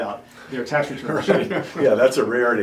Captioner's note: laughing